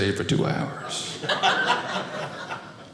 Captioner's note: audience laughing